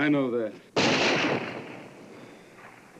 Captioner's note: gunshot